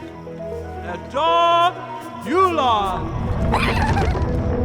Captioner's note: voice speaking gibberish